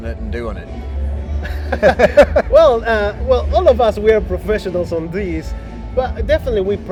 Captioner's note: laughs